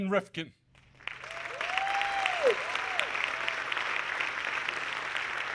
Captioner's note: audience clapping